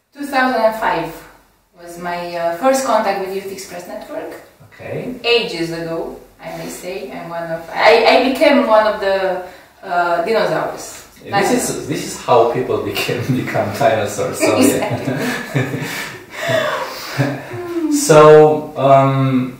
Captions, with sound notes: 2005 was my first contact with Youth Express Network! AGES ago! I may say! I'm one of the... I became one of the Dinosaurs! And this is how people become Dinosaurs of Y-E-N! *Laughs* So...